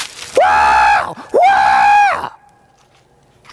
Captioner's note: screaming